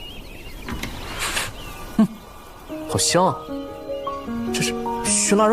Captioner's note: sniffs the air